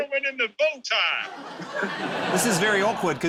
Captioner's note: laughter